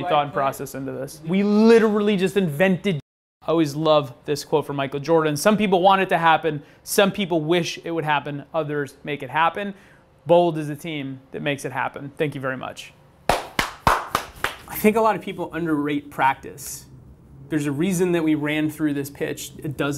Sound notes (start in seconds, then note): 13.2 clapping